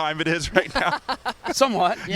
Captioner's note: laughs